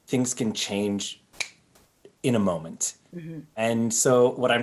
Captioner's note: snaps finger